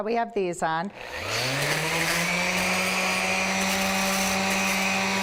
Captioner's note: sander grinding